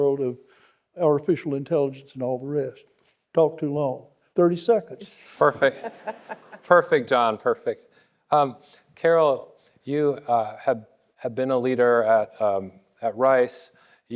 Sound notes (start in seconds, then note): 5.1 laughing